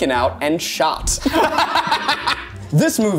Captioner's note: laughing